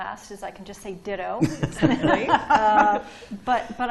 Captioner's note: laughter